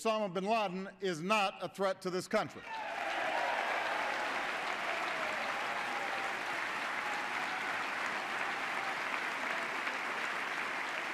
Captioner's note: applause